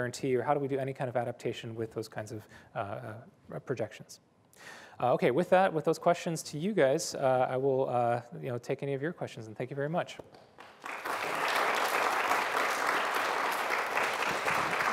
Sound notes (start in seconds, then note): 10.4 applause